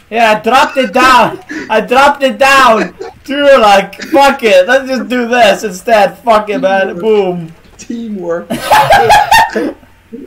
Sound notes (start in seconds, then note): 2.4 laughing; 2.7 laughter continues; 8.4 laughing; 8.5 bursts into laughter